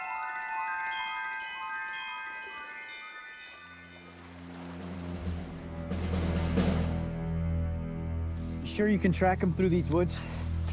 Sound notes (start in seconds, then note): 3.2 waves rustle; 3.9 tense militaristic music